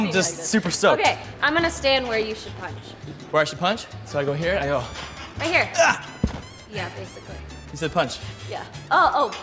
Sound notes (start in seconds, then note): 5.7 grunts